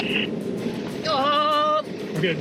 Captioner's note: car engine roaring; screaming